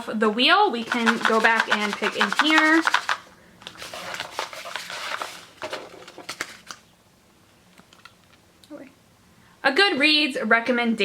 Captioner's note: shuffling noise